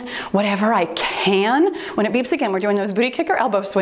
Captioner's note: timer beeps